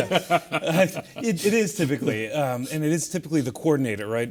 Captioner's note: laugh